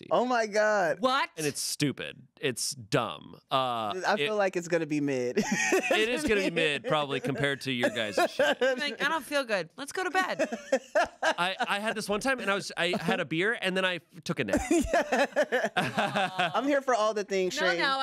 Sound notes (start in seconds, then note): 5.4 laughs; 14.5 everyone laughs